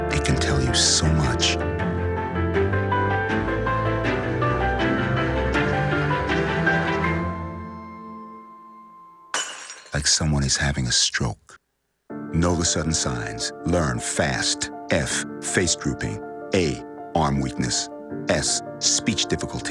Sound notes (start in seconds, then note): 9.3 dish Breaking